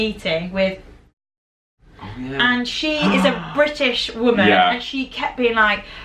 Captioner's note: whispering